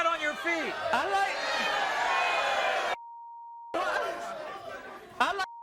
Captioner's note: audience jeering